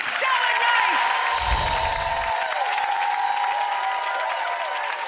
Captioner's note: applause